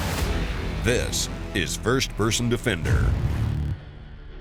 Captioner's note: voiceover